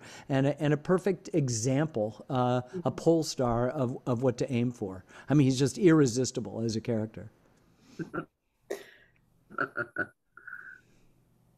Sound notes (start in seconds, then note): 8.0 chuckling